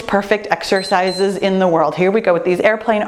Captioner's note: timer beeps